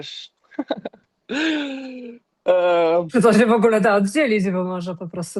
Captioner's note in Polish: śmiech